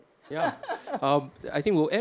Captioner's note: chuckles